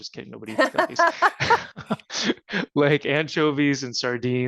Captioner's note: laughter